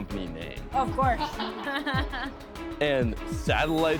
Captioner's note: laughing